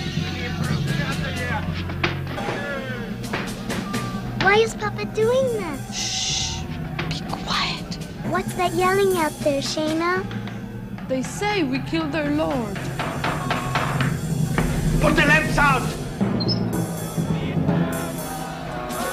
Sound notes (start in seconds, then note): 3.2 hammer thumping; 12.4 hammer thumping; 16.3 lamp squeaking